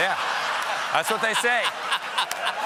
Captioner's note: laughter